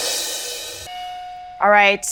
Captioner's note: beep